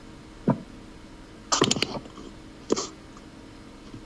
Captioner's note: microphone moving